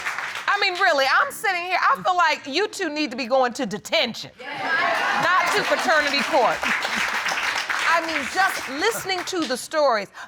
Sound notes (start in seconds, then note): 4.5 audience agreeing